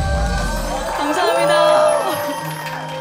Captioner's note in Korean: 박수갈채